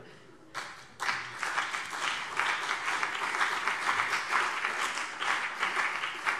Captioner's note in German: Beifall CDU und BÜNDNIS 90/DIE GRÜNEN